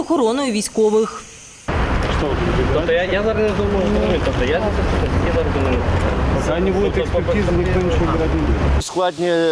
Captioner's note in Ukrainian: люди говорять між собою